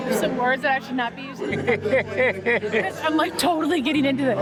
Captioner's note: laughing